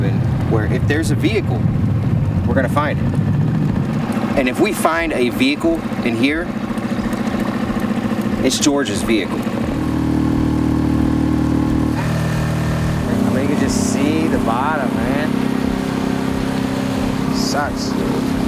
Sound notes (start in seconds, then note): 10.1 outboard motor puttering